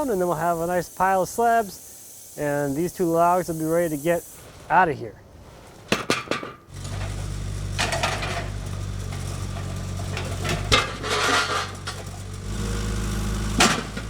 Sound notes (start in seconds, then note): 6.7 skid-steer whirring; 6.7 metal clanks; 10.9 metal clanking